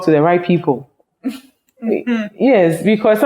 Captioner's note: laughs